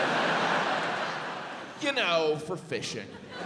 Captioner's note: audience laughs